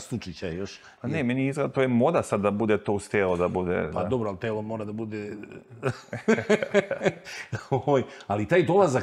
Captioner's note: laughter